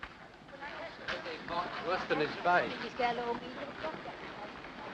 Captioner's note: people chattering